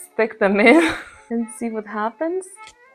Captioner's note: chuckles